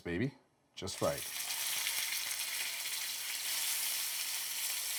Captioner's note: loud sizzling